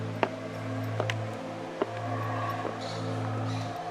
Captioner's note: monkeys howling